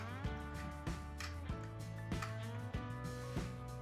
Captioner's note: buttons clicking